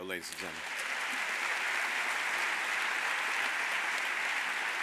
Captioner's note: audience applauds